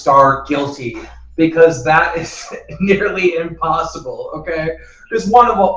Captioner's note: laughs